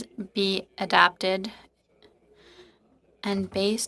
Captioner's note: speaking French